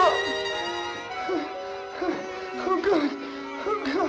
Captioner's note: whimpering